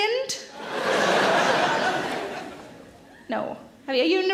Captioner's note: audience laughs